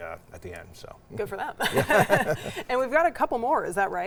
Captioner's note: both laughing